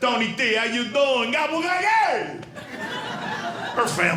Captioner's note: yells